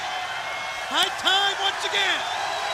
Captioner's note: crowd cheering